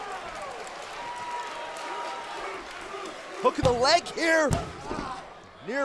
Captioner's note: crowd cheering